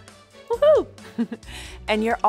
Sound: chuckles

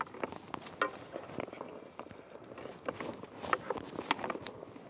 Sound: hockey stick clacking

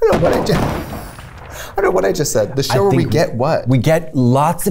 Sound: laughs

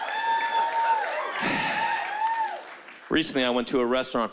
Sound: cheering

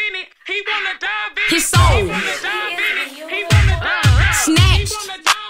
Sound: indistinct chatter

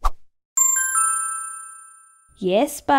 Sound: ding!

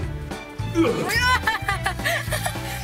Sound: grunts; laughs

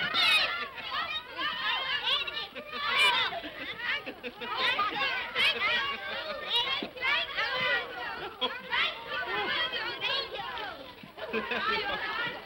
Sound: children clamoring; laughs

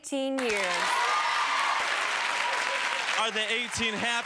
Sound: applause

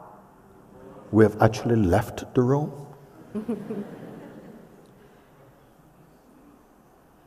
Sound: laughter

